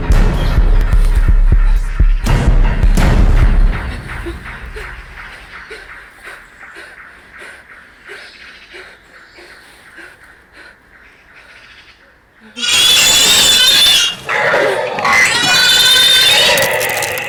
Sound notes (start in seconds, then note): 1.5 whimpers terrified; 4.7 he gasps for breath; 12.5 creature squeals viciously